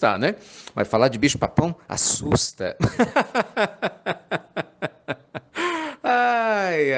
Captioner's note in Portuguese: risadas